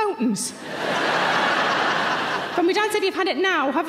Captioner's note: audience laughing